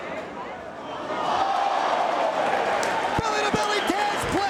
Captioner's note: spectators exclaiming